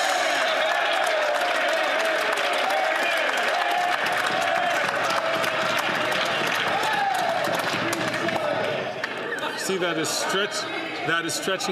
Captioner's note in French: applaudissements